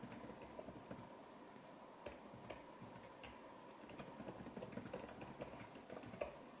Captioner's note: typing and deleting continues